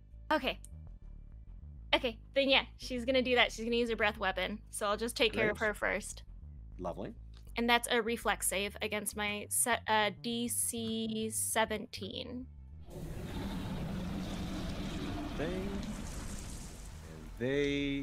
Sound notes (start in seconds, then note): 12.8 roaring sound effect